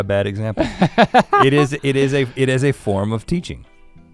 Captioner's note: Link laughing